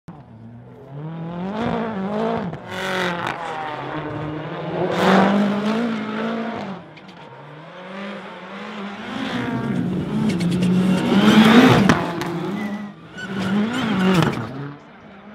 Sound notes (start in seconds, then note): 0.7 engine revving; 0.9 car speeding